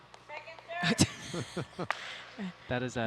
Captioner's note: laughing